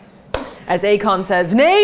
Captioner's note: hand smacking